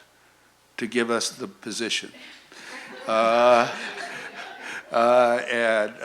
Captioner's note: laughter